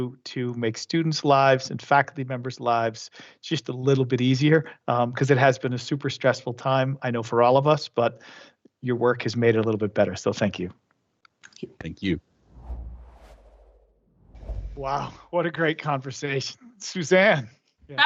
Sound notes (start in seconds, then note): 12.7 air whooshes